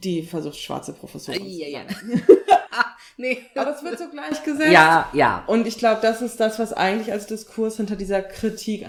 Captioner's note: laugh; laughs